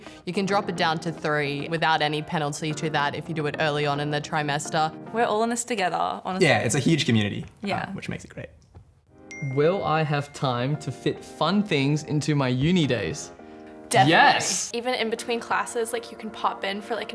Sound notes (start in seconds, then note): 9.3 ping